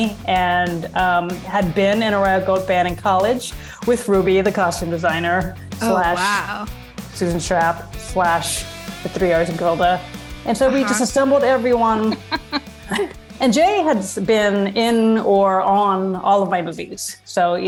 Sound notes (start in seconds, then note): 11.9 laughs